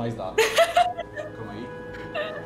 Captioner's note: laughs